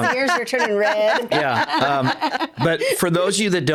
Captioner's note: laughing